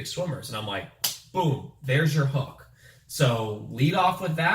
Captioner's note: hands slap